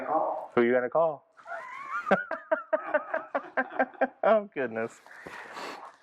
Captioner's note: laughing